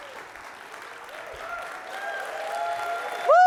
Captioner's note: cheering